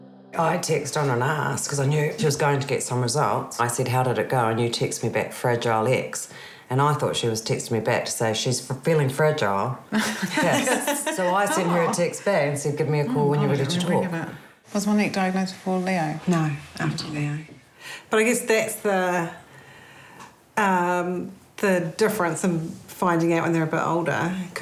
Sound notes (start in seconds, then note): 9.9 both laugh